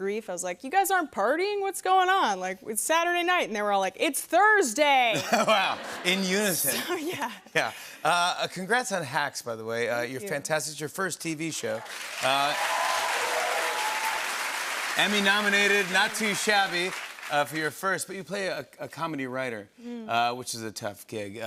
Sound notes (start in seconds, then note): 5.1 laughter; 11.7 cheering and applause